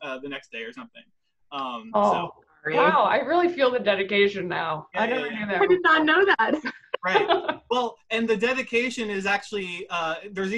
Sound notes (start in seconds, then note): 4.9 speaking faintly; 7.0 laughs